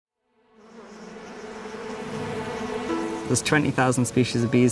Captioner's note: bee buzzing; soft music